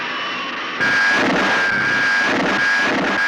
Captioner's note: zooming